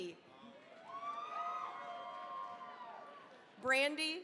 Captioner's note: cheering, applause